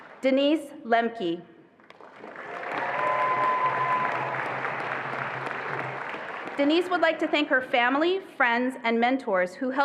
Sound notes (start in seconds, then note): 2.0 attendees applauding and cheering